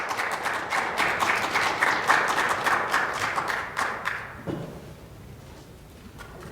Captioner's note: applause